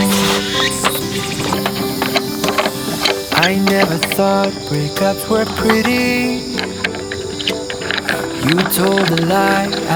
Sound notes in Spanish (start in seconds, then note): 7.7 Sonido de grava